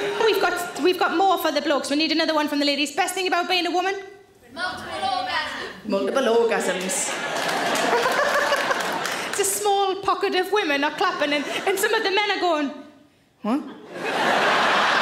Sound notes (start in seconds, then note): 0.0 audience laughs; 6.7 audience claps; 7.9 Sarah laughs; 13.8 audience laughs